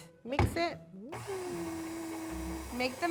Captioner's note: mixer whirring